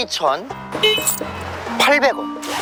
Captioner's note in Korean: 짤랑